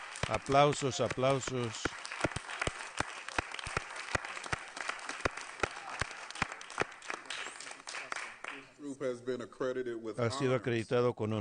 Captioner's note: applause